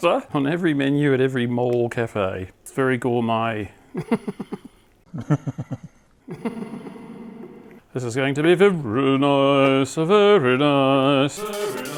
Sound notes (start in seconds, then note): 3.9 laughing; 6.2 laughing lower pitch; 6.2 laughing w reverb